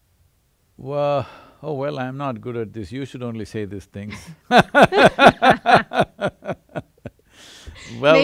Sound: both laugh

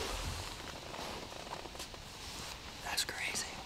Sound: whispering

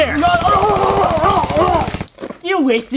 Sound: police car sirens; rapid gun fire; groans

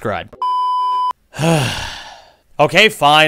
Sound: sighs

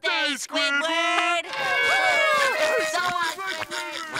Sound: cheering

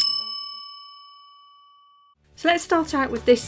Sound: bell dinging

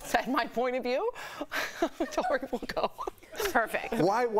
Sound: laughter

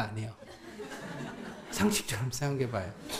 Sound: audience laughs

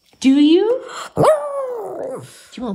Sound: howling

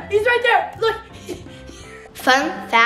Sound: laughs

